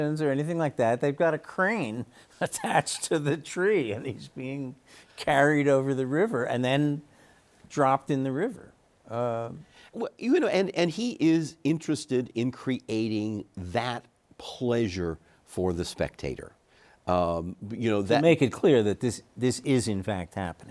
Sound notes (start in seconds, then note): 3.2 chuckles